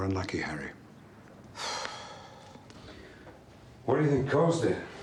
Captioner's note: Harry exhales sharply